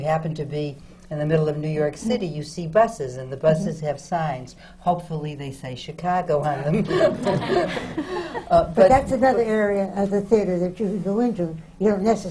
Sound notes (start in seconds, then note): 6.6 laughs